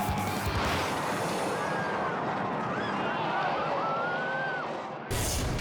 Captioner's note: tires screech; spectators scream; tense music